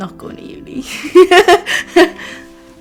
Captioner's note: laughs